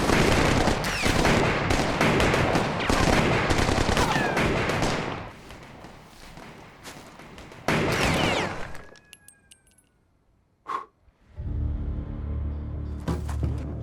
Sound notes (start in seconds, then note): 0.0 gun fire; 7.1 gun fire; 7.2 gunfire in the distance; 10.7 blows